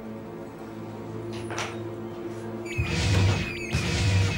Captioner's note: soft tense music; door clicking; alarm bleeping; rapid tense music